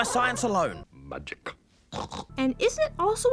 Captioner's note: snort snort